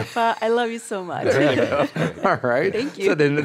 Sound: laughs

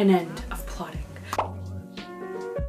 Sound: pop noise

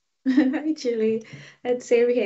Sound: chuckling

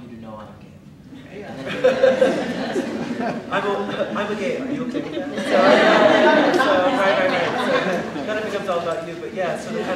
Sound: laughter

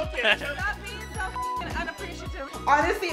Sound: beep

